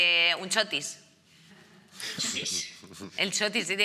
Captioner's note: laughing